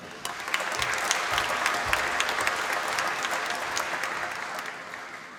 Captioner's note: applause